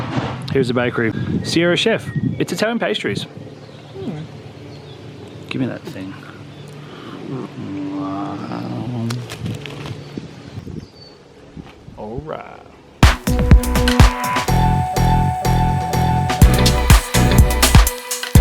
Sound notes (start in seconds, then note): 6.6 eats noisily; 13.0 upbeat music